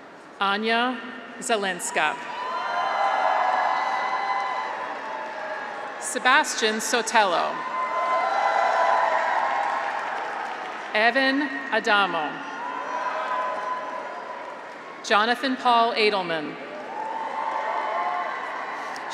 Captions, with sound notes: Ania Zielinska. (graduates cheer) Sebastian Sotelo. (graduates cheer) (audience applauds) Evan Adamo. (graduates cheer) Jonathan Paul Adelman. (graduates cheer)